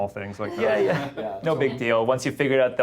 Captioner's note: group laughing